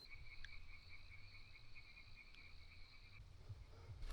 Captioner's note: crickets chirping